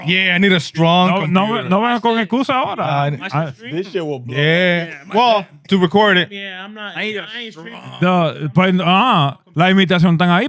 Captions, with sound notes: Yeah, I need a strong computer. (Speaking In Foreign Language) This shit will blow up. Well, to record it. Yeah, I'm not, I ain't straight. (Speaking In Foreign Language)